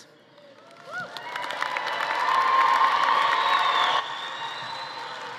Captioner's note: audience cheering